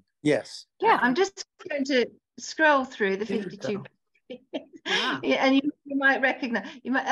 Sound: laughs

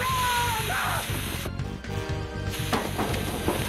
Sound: screams

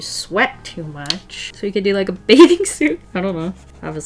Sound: laughs

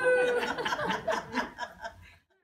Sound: laughter

